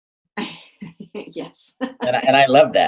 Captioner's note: laughs